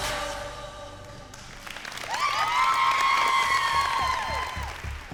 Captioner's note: applause